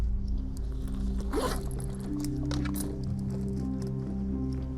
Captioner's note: zipper slides